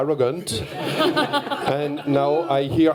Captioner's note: laughter